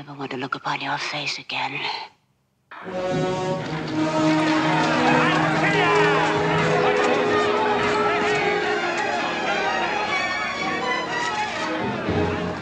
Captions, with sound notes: I never want to look upon your face again. (dramatic music) (men shouting)